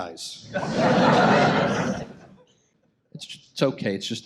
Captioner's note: audience laughs